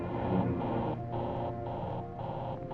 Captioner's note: computer buzzing